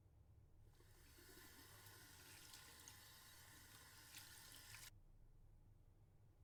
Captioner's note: water running